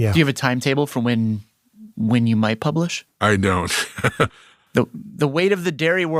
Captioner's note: laughs